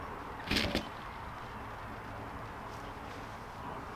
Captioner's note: wings flap